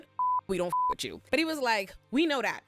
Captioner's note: beep